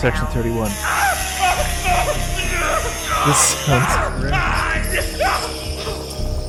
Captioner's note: buzz saws and screaming; laughing